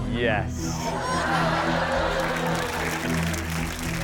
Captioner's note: audience laughs; audience applauds